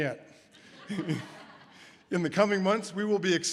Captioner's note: laughs